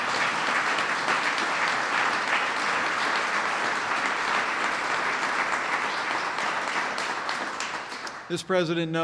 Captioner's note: applause